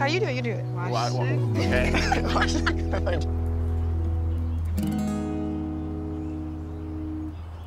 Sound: Luna laughs

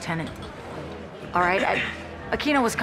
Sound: clears throat

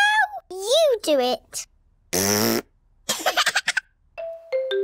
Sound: laughs; blows raspberry

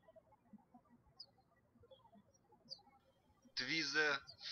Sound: birds chirping

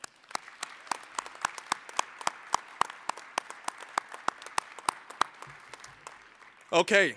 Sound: applause

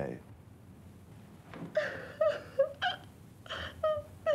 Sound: sobbing

